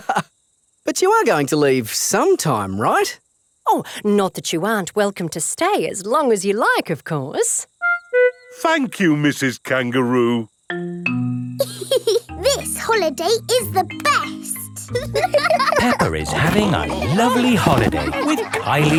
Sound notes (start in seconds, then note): 0.0 laughs; 12.2 giggles; 14.8 laughing